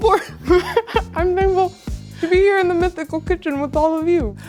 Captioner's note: laughs